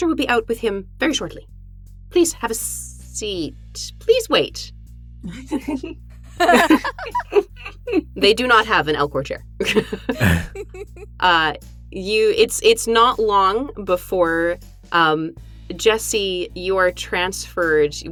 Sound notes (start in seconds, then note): 4.6 chuckle; 9.7 chuckles